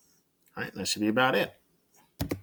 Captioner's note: keyboard click